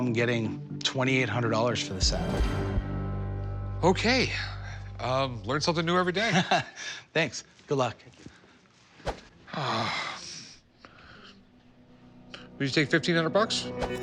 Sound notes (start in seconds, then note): 6.2 chuckling; 9.5 sighing